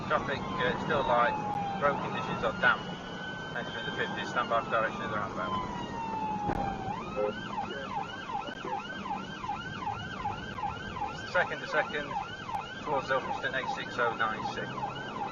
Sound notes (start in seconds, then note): 6.2 vehicle beeps; 8.6 police car siren